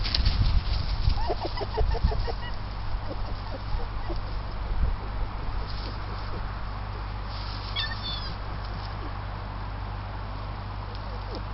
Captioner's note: sounds of foxes calling to each other